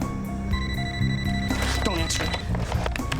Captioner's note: phone ringing